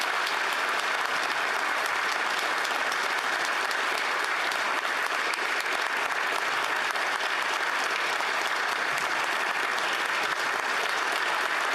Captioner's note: applause